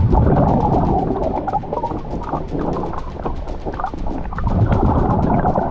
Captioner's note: water gurgling continues